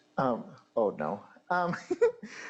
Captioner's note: laughing